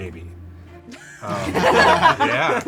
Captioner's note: crew laughs